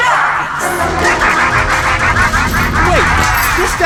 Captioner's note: machine humming manically